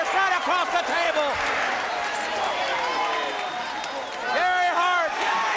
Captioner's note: crowd cheering